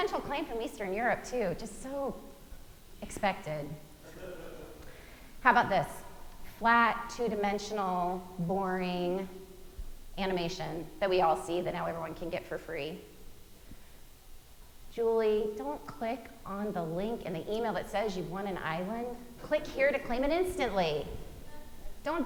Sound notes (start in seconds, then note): 4.0 audience member chuckling